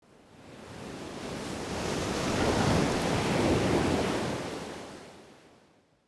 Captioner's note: waves crashing